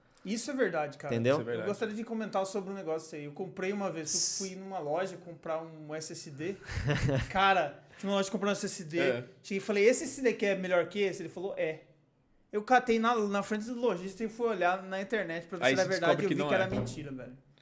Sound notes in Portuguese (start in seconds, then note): 6.6 risos